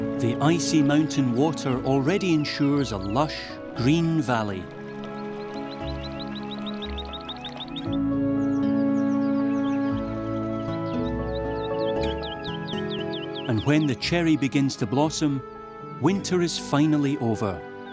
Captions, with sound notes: The icy mountain water already ensures a lush green valley. [birds twittering] And when the cherry begins to blossom, winter is finally over.